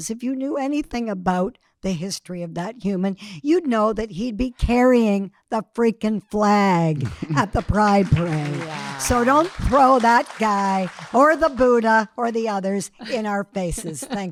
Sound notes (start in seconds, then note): 7.0 audience clapping